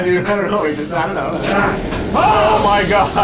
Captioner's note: door opens